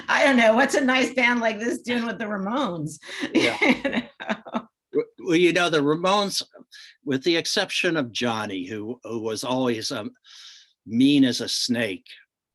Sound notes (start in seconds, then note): 3.3 laughs